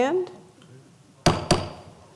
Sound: sound of gavel

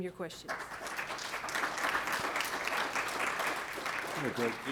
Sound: applause

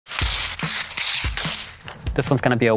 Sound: paper ripping

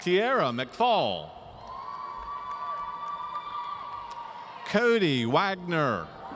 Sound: audience cheering

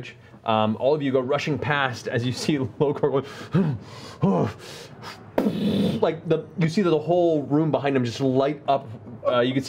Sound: huffing and explosion

